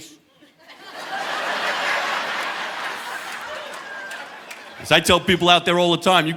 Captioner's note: audience laughing